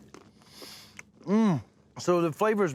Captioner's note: crunching